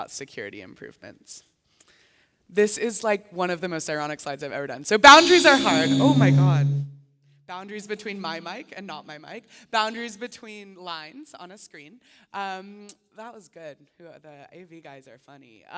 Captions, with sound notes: when you're thinking about security improvements. This is like one of the most ironic slides I've ever done. Boundaries are hard. [loud mic feedback] Oh my god -- boundaries between my mic and not my mic, boundaries between lines on a screen. That was good; the AV guys are funny.